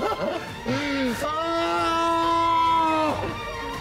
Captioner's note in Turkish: Bağırıyor